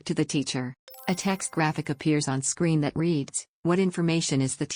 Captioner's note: chime